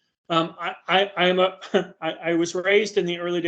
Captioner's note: chuckling